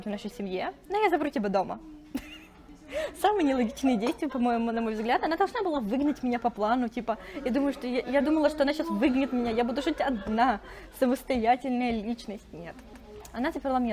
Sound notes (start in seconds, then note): 2.1 laughs